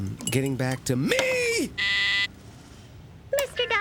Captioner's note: intercom buzzing